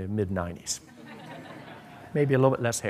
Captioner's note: laughter